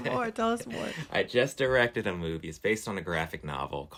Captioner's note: laughter